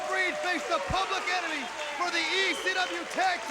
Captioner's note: crowd cheering